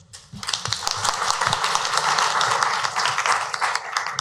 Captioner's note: clapping